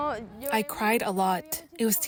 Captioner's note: through translator